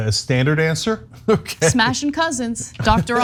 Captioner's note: laugh